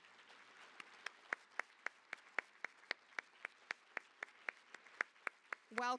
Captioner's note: applause